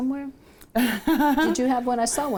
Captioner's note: laughs